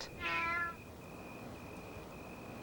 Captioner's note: meow